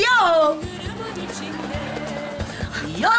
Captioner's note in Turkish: Gülme efekti